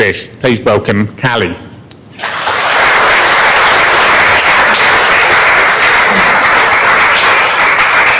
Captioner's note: applause